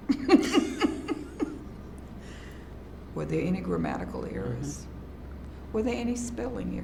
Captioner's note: laughs